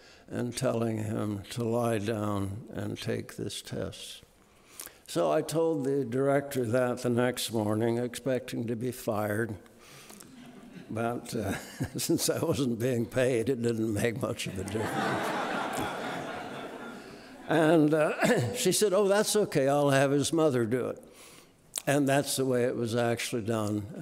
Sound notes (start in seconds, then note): 10.3 audience laughing; 11.2 laughs; 14.4 audience laughing